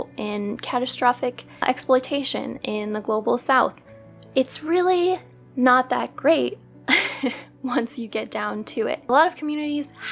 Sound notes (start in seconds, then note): 6.9 laugh